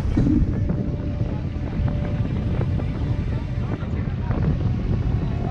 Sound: wind blowing

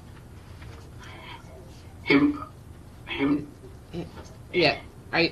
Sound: distortion on call

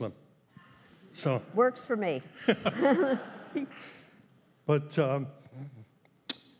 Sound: laughs

